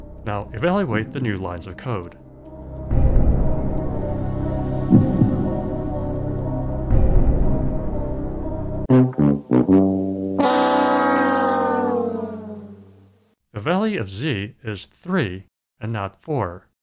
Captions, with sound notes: Now evaluate the new lines of code. [suspenseful music] [losing horn] The value of z is 3 and not 4.